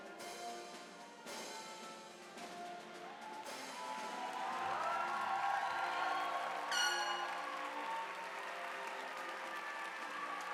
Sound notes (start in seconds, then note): 3.0 audience applauding; 4.1 bright orchestra music